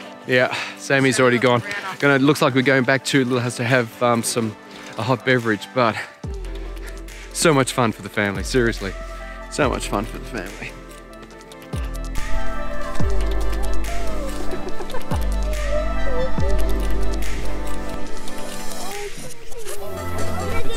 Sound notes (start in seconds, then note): 14.9 laughing